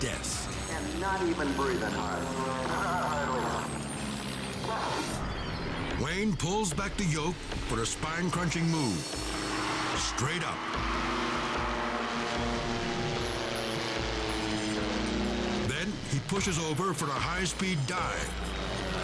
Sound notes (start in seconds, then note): 10.9 airplane buzzing